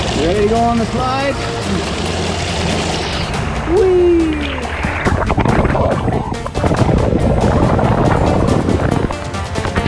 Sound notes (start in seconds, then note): 0.0 water splashing; 5.2 underwater gurgling